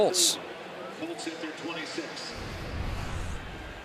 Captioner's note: pa announcement